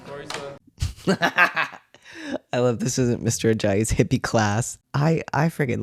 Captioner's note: laughter